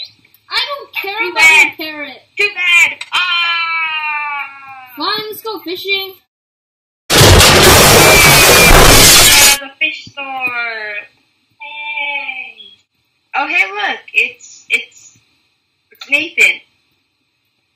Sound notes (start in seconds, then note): 7.1 explosion